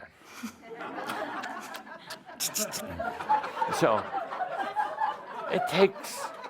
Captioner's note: laughter